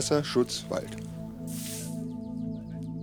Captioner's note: soft scraping